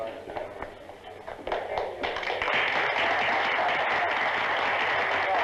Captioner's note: applause